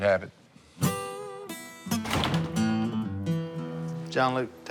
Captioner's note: none